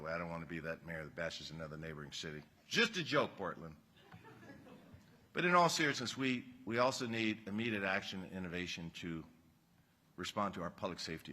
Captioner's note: laughter